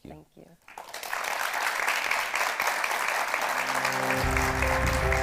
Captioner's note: audience applauding; uplifting music